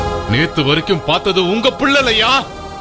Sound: none

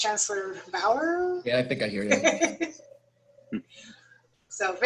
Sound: laughter

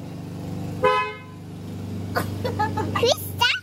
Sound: car horn honks

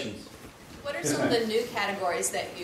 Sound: voiceover

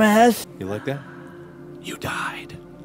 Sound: sighs in contentment; whispering

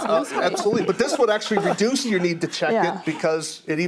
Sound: all laugh

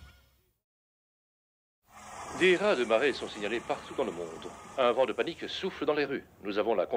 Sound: man on radio

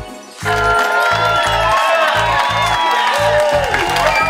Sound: applause

